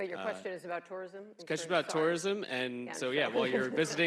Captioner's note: laughs